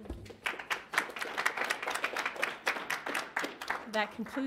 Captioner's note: audience applauds